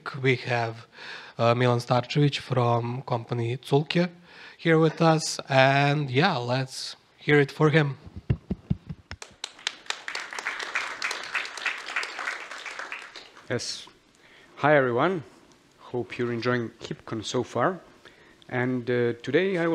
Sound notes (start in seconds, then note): 9.1 applause